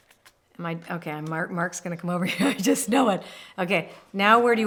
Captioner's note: laughs